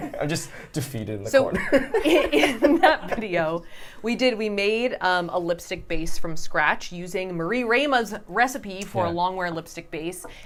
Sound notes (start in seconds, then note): 3.7 laughter